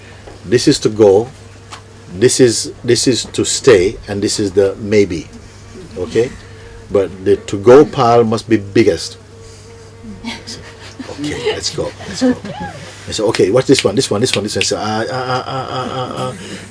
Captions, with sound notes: This is to go, this is to stay, and this is the maybe. Okay? But the 'to go' pile must be biggest.' I said, Okay, let's go, let's go. He said, [Snaps fingers] 'Okay, what's this one, this one, this one? I said, I, ah ah ah.....